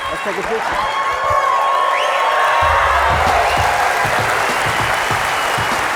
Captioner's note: cheers, applause